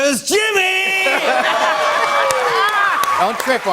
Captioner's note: laughter, cheers, applause